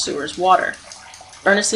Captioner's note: dripping water and gentle splashing of water